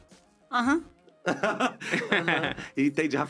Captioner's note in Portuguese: risos